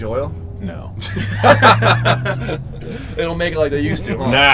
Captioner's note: guys laugh